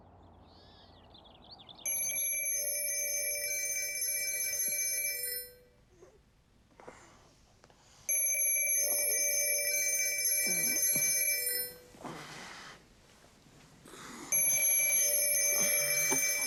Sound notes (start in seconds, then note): 0.0 birds twittering; 1.8 phone ringing; 8.1 phone ringing